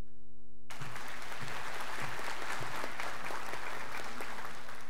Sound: students applauding

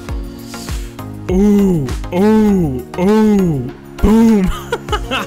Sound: laughs

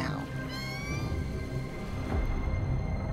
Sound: whale calling

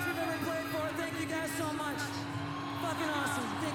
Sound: applause

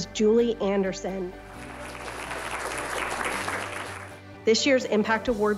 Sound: applause

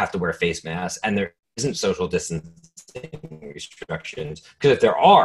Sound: static

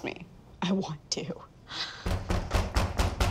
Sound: banging on door

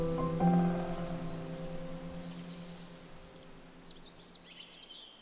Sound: forest din

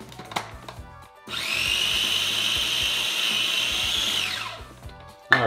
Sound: blender grinding

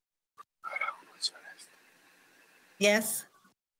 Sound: man whispers

